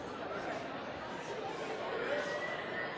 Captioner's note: chatter